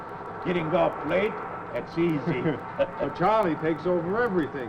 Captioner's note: chuckles